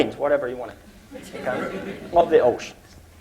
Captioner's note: laughter